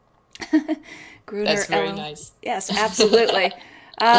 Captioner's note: laughs